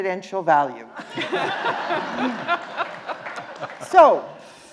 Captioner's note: justices and audience laughing